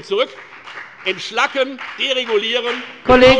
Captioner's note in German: Beifall bei der FDP